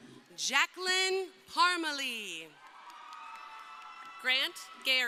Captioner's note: crowd cheering